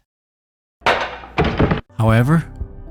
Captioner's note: man clattering